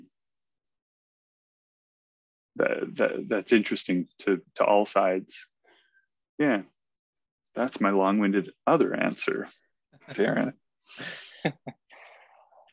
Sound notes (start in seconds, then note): 11.0 laughs